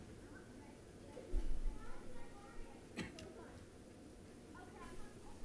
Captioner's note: passersby chattering